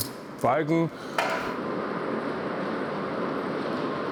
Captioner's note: quiet whirring